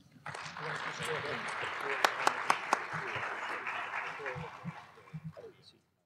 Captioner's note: applause